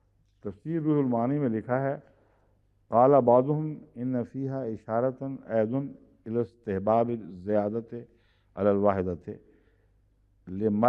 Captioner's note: Arabic